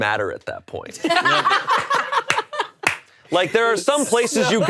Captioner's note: laughing